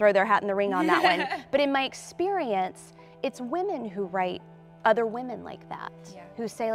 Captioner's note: laughs